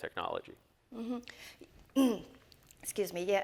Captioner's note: clears throat